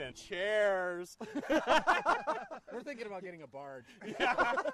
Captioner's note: laughing